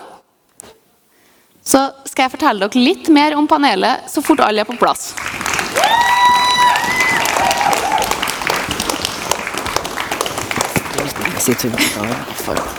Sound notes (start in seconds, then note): 7.1 cheers and applause